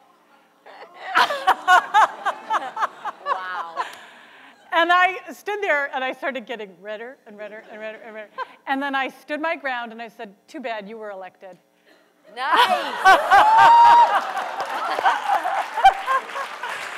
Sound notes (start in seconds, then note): 0.8 laughs; 1.1 audience gasping; 12.5 laughs; 13.0 cheering and applause